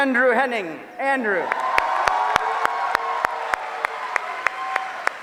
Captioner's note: applause